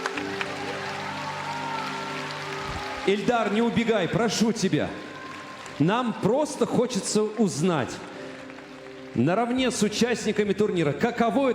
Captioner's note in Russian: аплодисменты